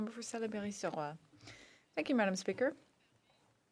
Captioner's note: speaking French